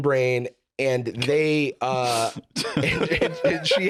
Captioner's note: laughs